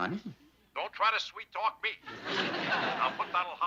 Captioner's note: on phone